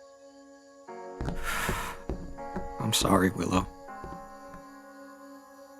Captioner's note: sigh